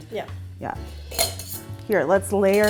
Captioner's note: brushes clinking